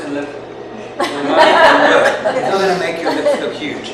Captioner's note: people laugh